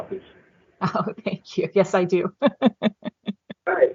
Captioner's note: laughing